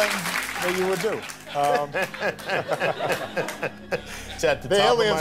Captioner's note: audience laughter